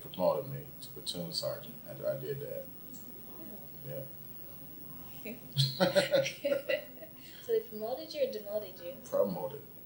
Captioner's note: both laugh